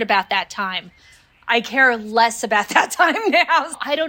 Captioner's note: laughing